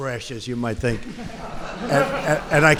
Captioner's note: laughter